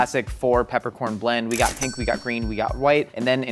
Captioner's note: cash register dings